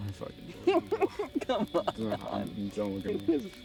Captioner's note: laughing